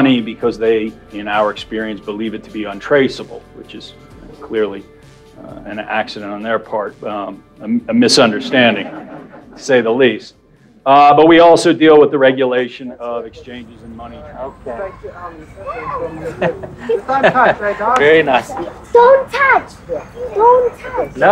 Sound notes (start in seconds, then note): 8.1 crowd laughing; 14.8 woman mumbling